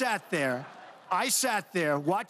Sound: laughter

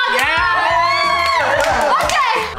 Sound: all cheering

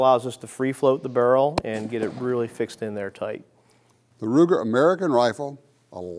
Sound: gun shots ringing out

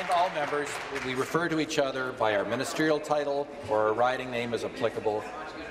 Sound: applause

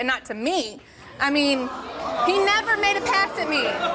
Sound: audience gasps

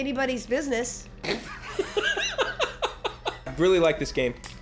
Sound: laugh

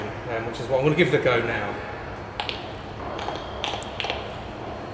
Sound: clicks

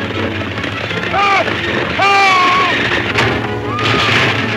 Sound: Morgan shouts; Mary screams

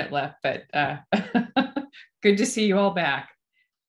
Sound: laughs

